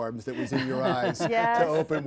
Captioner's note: laughs